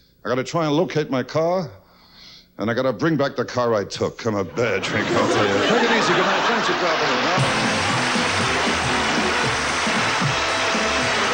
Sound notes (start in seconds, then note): 4.6 audience loudly laughs